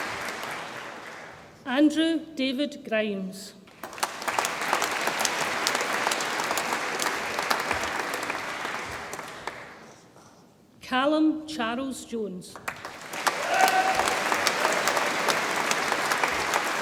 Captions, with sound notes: Andrew David Grimes, (audience applauds) Calum Charles Jones, (audience applauds and cheers)